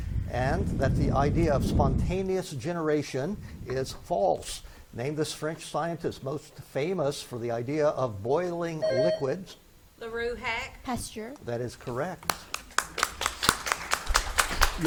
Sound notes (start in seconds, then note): 8.8 buzzer beeps; 12.1 spectators clap